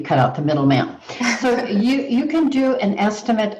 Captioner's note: laughs